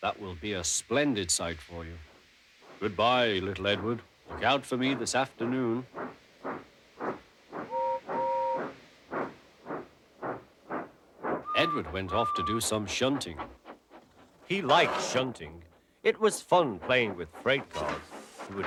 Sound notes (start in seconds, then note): 7.7 toots; 11.4 tooting